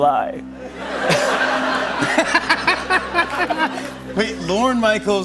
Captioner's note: laughter